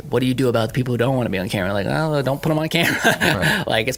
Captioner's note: laughing